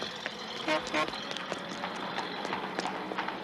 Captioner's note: car horn honks